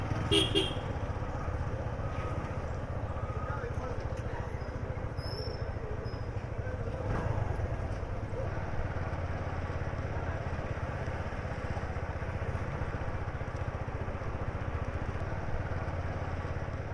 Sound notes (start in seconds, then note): 0.0 Vrombissement d’une moto; 0.2 klaxon